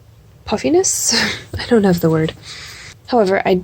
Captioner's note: laughs